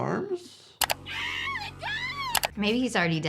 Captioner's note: neighbor screaming